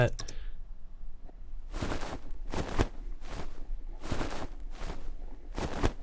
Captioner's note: coat material rustling